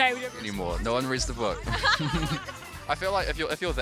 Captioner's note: laughs